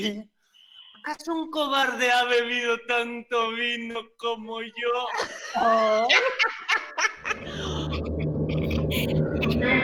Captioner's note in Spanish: Risas